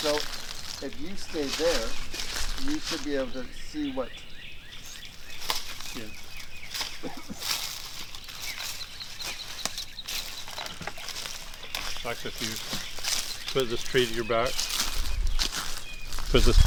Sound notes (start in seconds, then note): 4.4 birds chirping; 4.4 rustling leaves; 6.8 birds chirping; 6.8 rustling leaves; 14.8 birds chirping; 14.8 rustling leaves